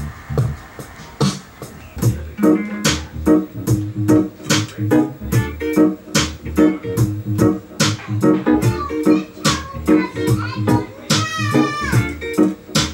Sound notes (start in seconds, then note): 2.4 cruisy reggae music plays; 2.4 jams on guitar; 8.7 child squeals